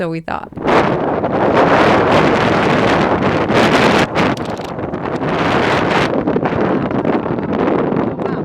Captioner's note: strong gusts of wind